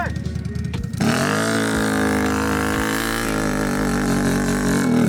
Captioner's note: engine revving